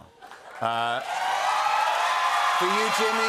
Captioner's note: cheers and applause